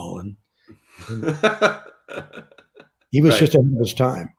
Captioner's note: laughs